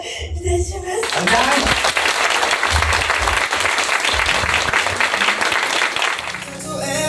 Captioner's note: applause